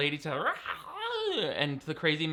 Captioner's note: man mocking banshee screaming